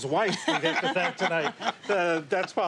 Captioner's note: laughter